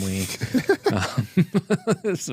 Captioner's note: laughs